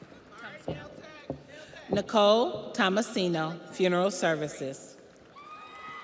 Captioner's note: audience applauds; audience cheers